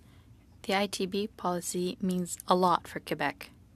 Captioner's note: speaking in French